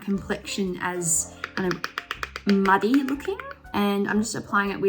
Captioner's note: container clacking